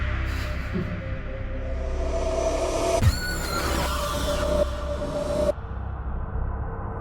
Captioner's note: mind warping sounds; eerie warping sounds